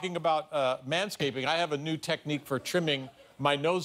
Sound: laughter

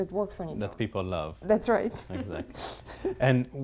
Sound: laugh

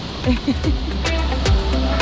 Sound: laughter

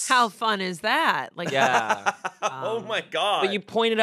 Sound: laughs

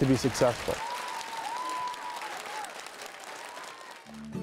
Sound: applause

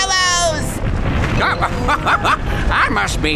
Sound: laughing

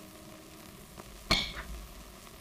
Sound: stick thuds

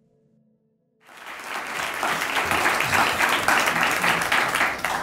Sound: audience applauding

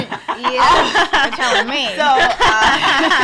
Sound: laughs

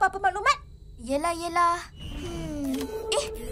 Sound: sighs

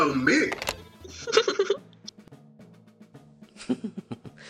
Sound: laughter

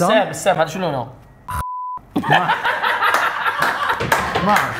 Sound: everyone bursts out laughing

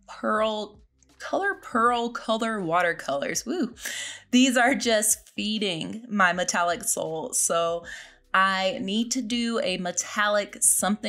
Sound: whew

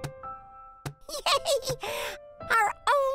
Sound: giggling

